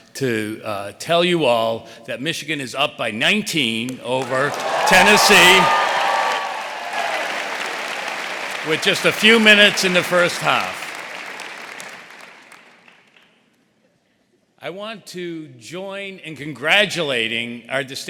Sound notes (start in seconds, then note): 4.2 audience cheering; 4.2 audience applauding